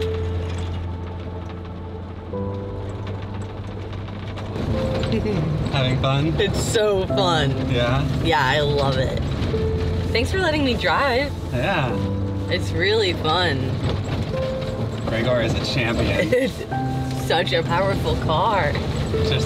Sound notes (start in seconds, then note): 16.4 chuckling